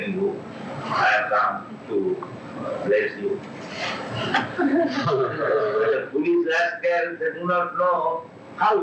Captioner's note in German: Gelächter